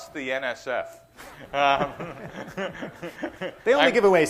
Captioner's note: laughter